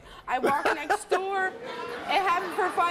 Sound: Steve laughs

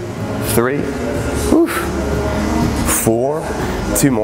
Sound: whew

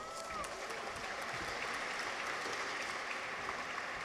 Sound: audience applauds

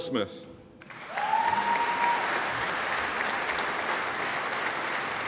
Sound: audience applauding

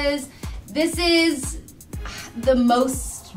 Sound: scoffs

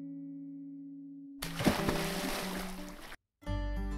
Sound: splash

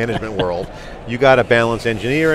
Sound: laughing

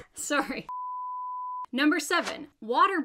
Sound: beeping sound

